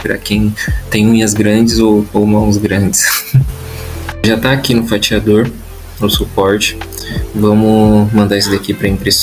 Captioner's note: laughs